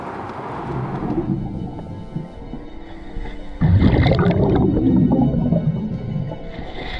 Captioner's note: suspenseful music; water bubbling